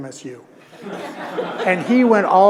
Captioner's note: audience laughing